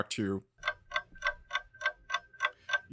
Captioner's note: sound of clock ticking